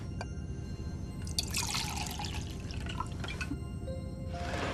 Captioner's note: drink pouring